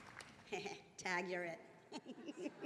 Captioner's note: attendees laughing; chuckles; laughs